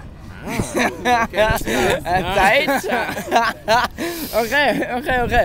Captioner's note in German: lachen